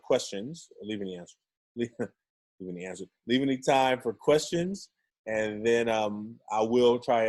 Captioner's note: chuckles